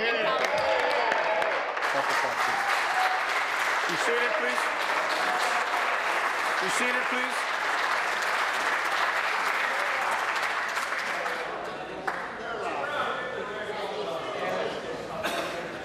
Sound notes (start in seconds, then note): 5.8 applause